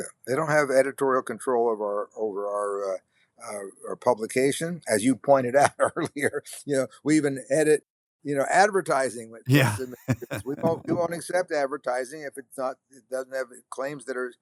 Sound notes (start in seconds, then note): 9.5 chuckles